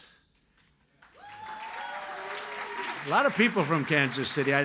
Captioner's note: applause